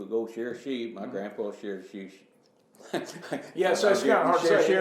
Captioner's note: laughs